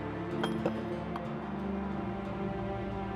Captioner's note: clink